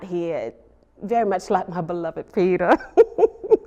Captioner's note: laughs